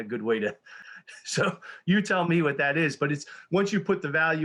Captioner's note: chuckles